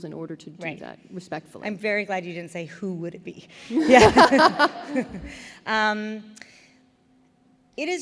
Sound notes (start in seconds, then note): 3.7 laughter